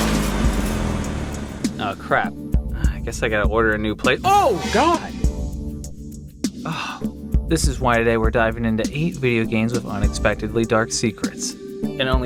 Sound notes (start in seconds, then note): 6.6 sigh